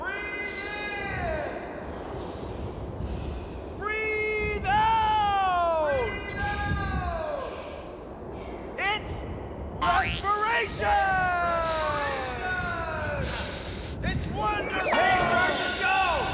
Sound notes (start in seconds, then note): 0.0 echoing; 2.0 inhales; 5.9 echoing; 10.6 echoing